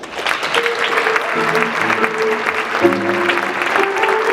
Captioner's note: audience clapping; jazz music